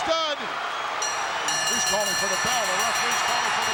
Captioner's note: bell ringing